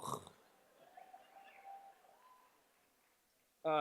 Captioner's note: cheers